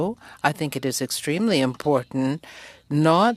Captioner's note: speaking french